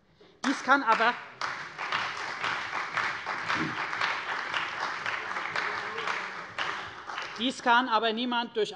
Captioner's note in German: Beifall bei der CDU und dem BÜNDNIS 90/DIE GRÜNEN